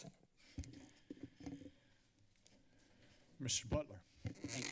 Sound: silence

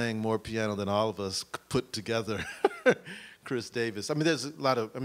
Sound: laughs

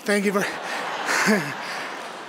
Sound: audience laughing; laughing

